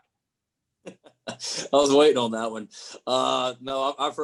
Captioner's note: laughing